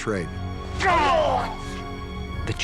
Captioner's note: groans